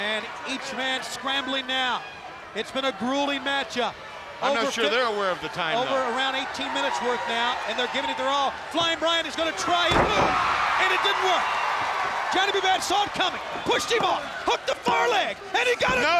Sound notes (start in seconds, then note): 1.8 crowd cheering; 9.8 body thudding; 10.2 crowd cheering